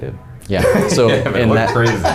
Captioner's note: chuckling